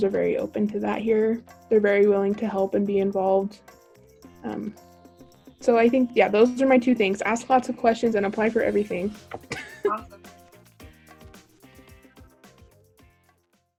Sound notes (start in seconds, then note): 9.4 laughs